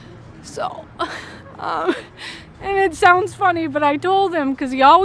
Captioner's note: crying